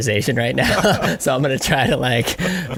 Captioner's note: laughing